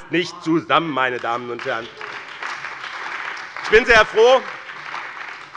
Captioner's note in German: Beifall bei dem BÜNDNIS 90/DIE GRÜNEN und der CDU